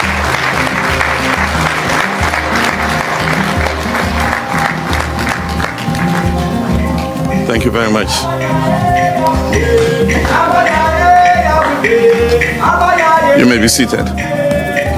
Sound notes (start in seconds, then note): 0.0 applause and music; 0.0 applause